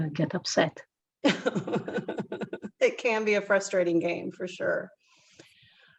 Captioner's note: laugh